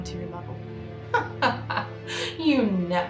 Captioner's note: Meredith laughs